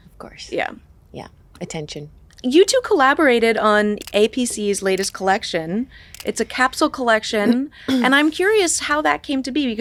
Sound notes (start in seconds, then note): 6.1 camera snapping